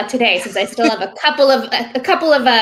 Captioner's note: laughing